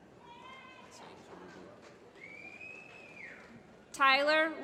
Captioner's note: applause